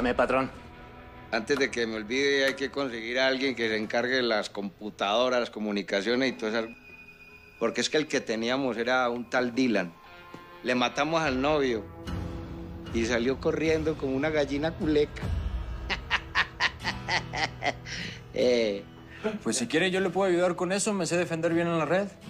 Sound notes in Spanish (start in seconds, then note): 15.8 Risas